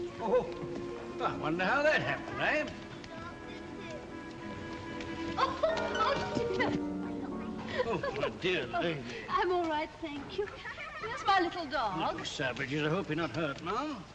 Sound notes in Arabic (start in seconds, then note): 5.2 تتنهد بهدوء; 7.6 تضحك بهدوء; 8.2 بصوت خشن